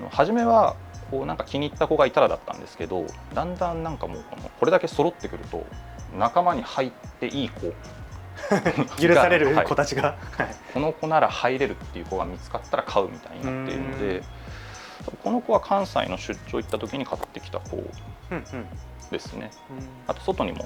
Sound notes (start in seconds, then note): 8.3 laughs